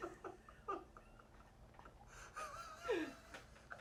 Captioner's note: crew laughs